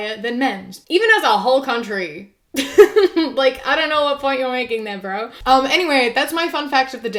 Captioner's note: laughs